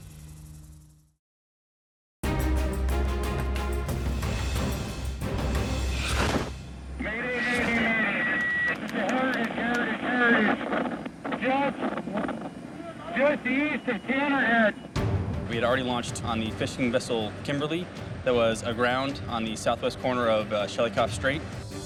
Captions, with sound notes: (dramatic music) (static) - We had already launched on the fishing vessel Kimberly that was aground on the southwest corner of Shelikof Strait.